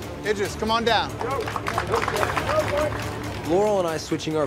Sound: competitors clapping

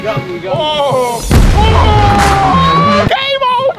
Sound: cheering

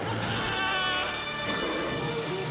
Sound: screaming; growling

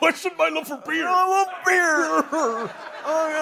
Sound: sobbing

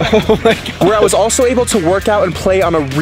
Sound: laughing

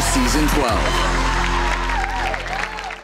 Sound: audience cheering and clapping

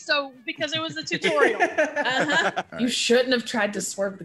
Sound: laugh

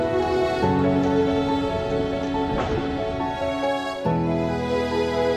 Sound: hanger doors closing

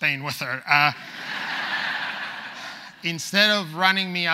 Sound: audience laughs

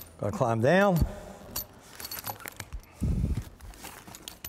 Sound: jangling

